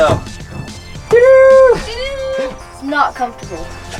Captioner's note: cheers